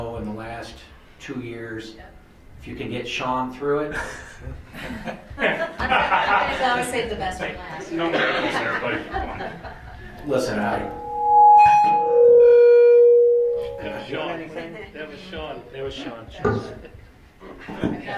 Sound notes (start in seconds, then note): 3.9 laughter; 10.5 microphone feedback